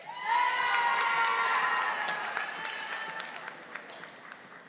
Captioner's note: audience applauding